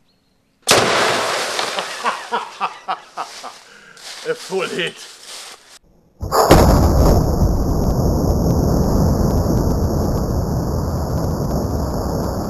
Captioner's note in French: rire de bonhomme